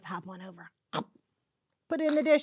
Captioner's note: imitates biting noise